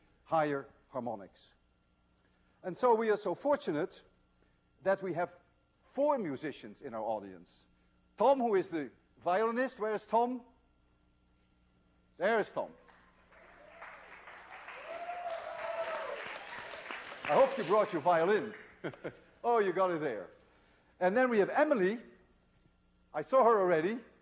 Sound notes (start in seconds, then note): 12.8 applause; 18.6 laughs